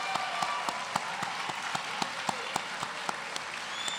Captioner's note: applause